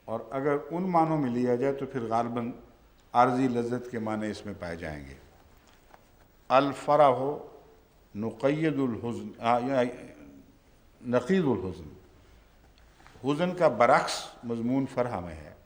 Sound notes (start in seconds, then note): 6.5 Arabic